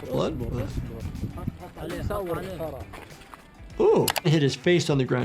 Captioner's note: multiple people talking